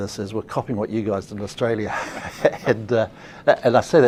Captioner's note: laughs